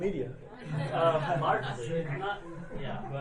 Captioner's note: laughing